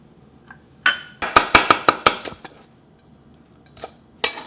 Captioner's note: chopping